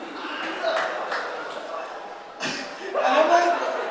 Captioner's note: scattered laughter and clapping